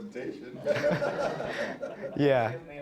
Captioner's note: all laughing